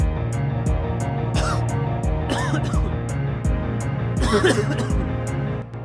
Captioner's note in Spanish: Sonido de tos